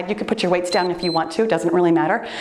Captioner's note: timer beeps